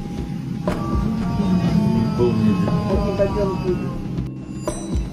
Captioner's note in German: schreit